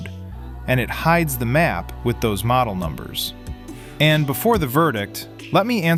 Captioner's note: thoughtful